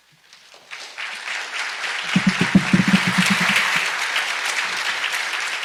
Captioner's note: audience applauds